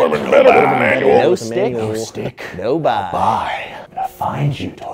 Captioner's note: whispering